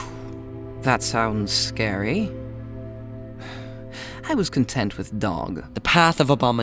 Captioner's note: sighing